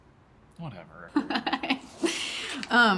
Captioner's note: laughs